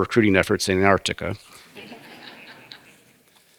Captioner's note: laugh